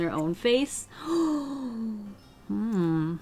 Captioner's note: gasps